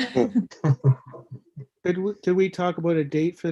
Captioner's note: laughing